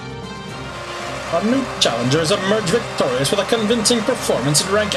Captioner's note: audience cheering